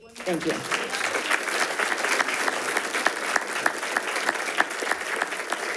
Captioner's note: attendees applauding